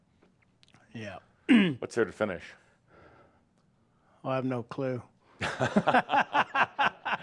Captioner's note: they laugh